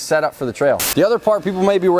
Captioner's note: static